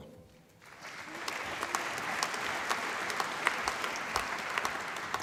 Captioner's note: applause